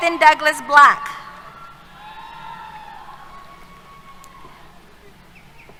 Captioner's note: cheers